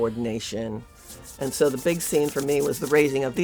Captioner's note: hands rubbing